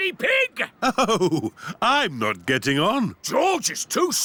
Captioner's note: chuckling